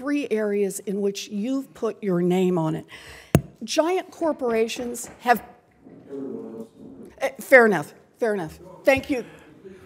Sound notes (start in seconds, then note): 6.3 gavel